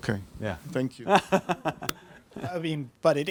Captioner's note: laughs